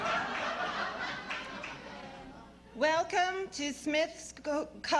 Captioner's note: applause and laughter; monotone